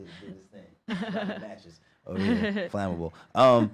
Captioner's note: laughs